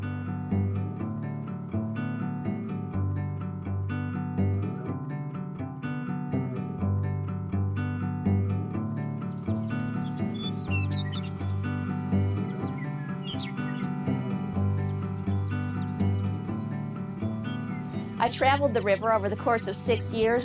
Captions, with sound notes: (melodic guitar music) (birds chirping) I traveled the river over the course of six years,